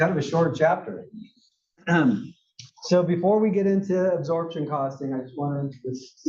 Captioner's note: cough